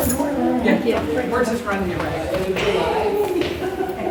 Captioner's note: people chatting